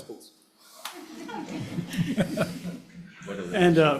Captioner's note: participants laughing